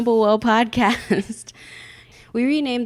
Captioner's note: laughing